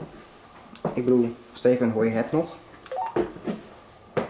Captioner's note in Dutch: geluid van walkie-talkie